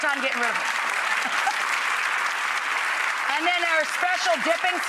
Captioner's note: audience applauding